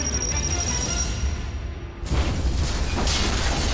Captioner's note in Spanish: Explosión